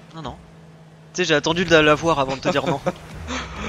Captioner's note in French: rires